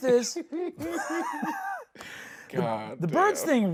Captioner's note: both laughing